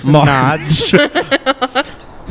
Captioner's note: laughs